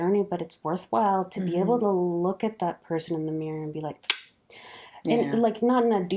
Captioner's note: snapped clicked tongue